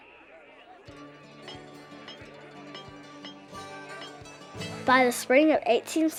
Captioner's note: train stake hammering